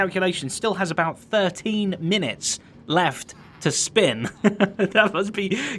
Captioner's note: chuckles